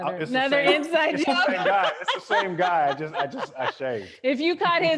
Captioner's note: laughing